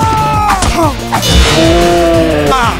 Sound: Peppino chuckles; Spy groans

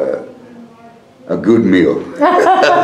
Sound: laughter

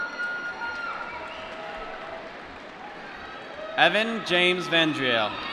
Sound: applause

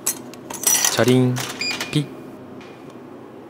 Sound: clatter of money, sound of buttons

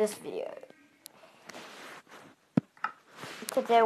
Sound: some Tapping

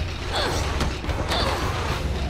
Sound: grunting

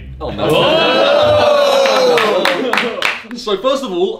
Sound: all shout

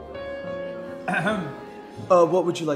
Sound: clears throat

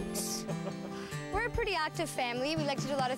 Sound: chuckling

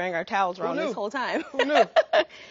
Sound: laughing

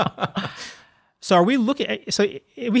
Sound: laughter

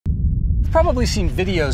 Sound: smoker rumbling

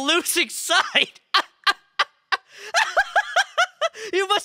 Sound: laughing

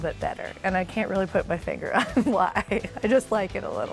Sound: laughter

